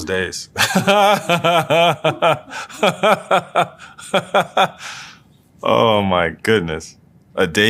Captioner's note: laugh